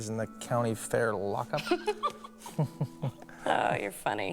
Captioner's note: laughs